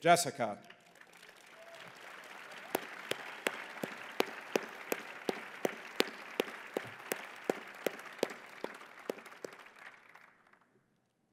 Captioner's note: applause